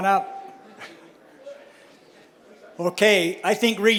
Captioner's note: chuckles